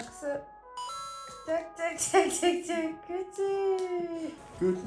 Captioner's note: proud smile + claps 👏🏻